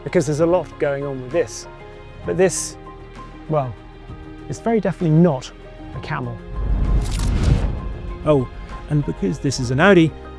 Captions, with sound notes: because there's a lot going on with this. But this, well, it's very definitely not a camel. (transition whooshes) (dramatic music continues) Oh, and because this is an Audi,